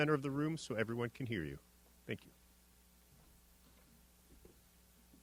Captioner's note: silence